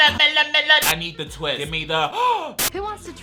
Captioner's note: gasps